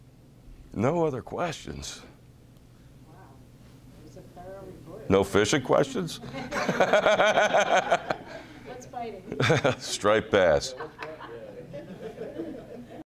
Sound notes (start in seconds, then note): 6.2 laughing